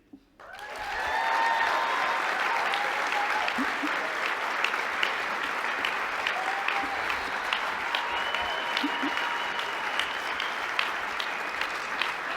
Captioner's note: applause